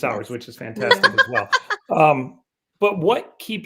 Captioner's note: laughing